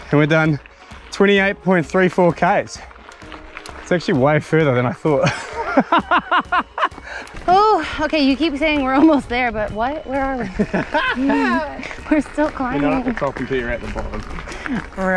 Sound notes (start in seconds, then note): 5.2 laughs; 10.4 laughs